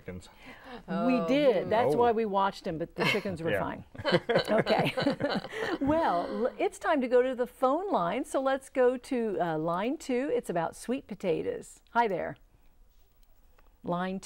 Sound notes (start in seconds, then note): 4.0 laughing